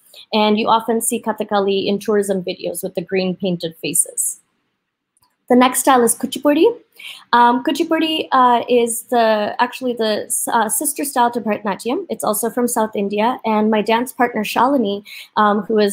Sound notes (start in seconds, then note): none